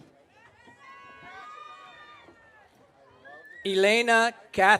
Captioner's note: audience cheering